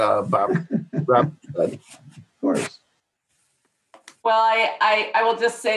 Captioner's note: laughing